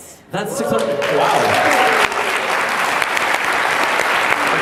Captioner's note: applause